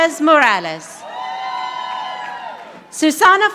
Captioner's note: audience applauding